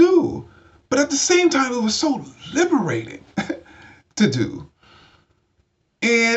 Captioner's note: chuckles